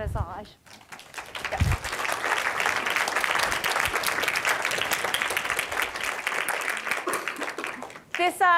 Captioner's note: applause